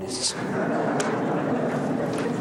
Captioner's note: laughter